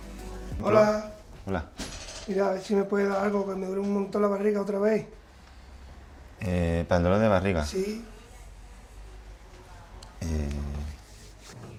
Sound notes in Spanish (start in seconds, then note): none